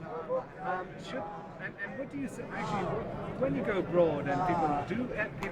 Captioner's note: voiceover